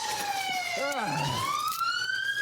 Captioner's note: radio chirps